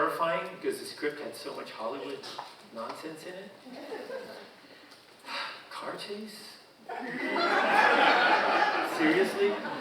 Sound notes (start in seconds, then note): 3.8 audience chuckling; 6.9 audience laughing